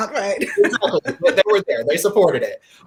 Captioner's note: laughs